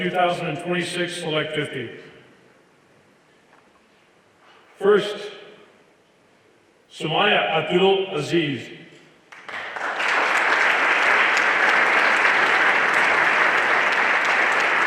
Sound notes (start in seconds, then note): 9.3 everyone applauding